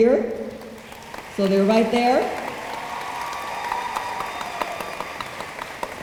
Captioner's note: room applauds